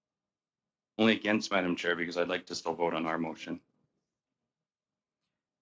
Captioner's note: speaking French